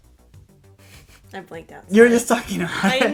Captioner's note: laughter